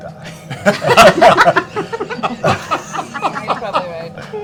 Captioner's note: laughter